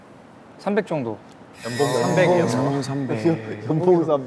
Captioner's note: murmurs erupt over the low salary